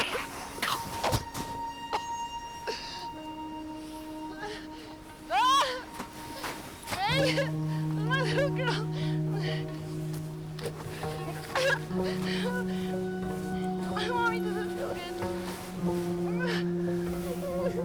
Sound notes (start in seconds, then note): 0.3 soft music; 5.3 Rachel sobs; 5.3 soft music; 16.2 Meg cries